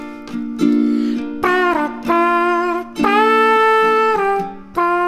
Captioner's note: imitating a trumpet with her mouth